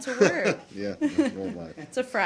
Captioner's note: laughter